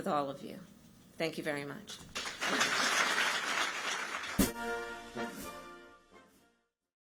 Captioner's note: applause